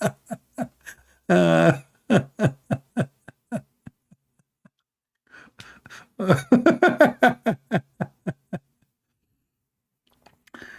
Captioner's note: Ketawa